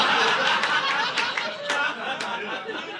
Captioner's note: audience laughing